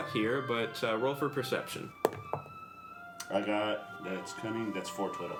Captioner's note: rolls dice